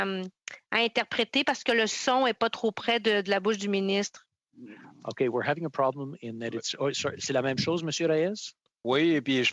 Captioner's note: speaking French